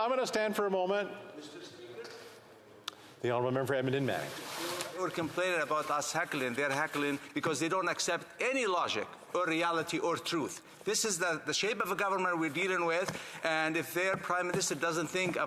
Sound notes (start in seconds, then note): 2.8 conversation din